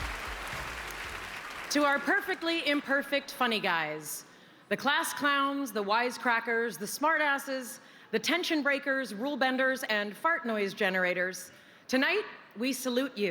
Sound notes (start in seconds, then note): 3.8 applause